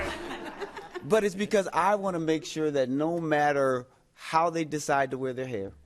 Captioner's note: laughter